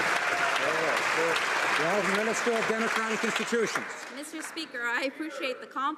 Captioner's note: some Applause